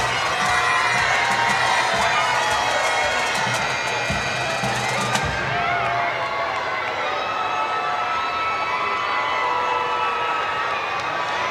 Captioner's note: cheers and Applause